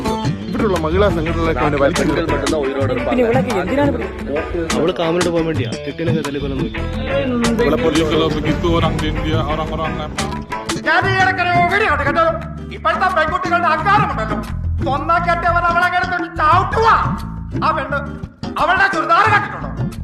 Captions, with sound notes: .[Crowd opine]. .[Crowd opine]. .I recently saw a video.. .Modern girls are so full of themselves.. .She is knocking her husband down.. .That woman!. .You should check her churidar top..